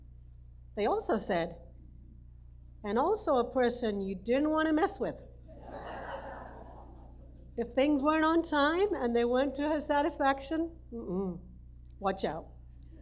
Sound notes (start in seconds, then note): 5.5 audience laughs